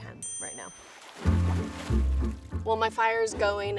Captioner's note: water splashing; upbeat music